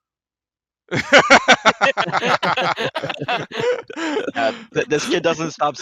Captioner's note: laughs